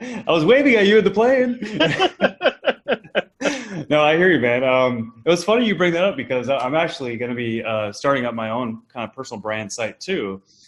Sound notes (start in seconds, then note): 1.4 both laugh